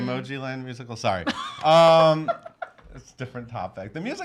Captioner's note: laughing